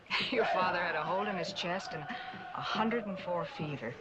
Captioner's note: chuckling